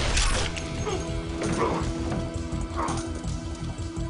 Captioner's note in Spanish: quejidos